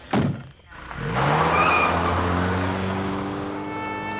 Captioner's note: tires squeal; solemn music